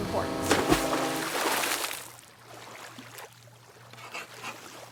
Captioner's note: water splashes